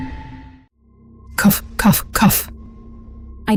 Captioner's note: cough, cough, cough!